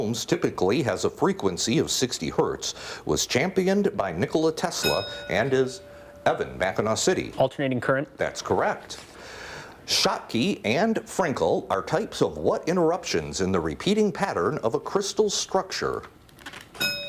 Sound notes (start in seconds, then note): 4.7 bell rings